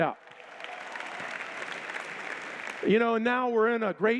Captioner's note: applause